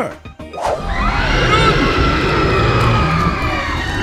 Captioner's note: people screaming